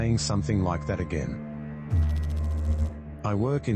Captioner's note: electrical noise